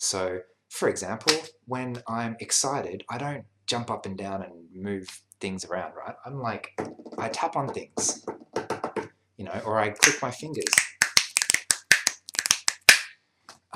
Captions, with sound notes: So for example, when I'm excited, I don't jump up and down and move things around. I'm like, (tapping) i tap on things, (tapping) or I click my fingers, (clicking fingers)